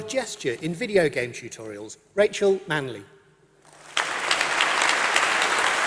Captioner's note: applause